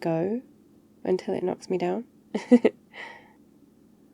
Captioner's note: laughs